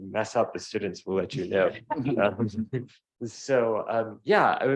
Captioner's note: laughing